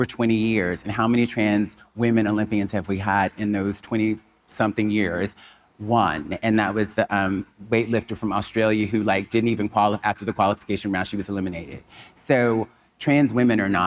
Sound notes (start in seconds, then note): none